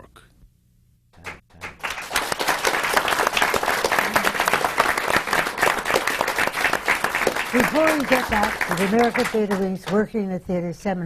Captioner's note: applause